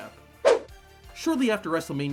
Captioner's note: upbeat music; screen whooshes